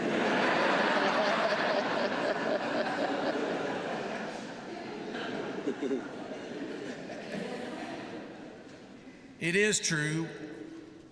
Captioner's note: laughter